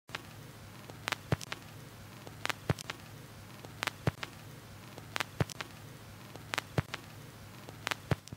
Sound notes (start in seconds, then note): 0.0 static sound of vinyl record needle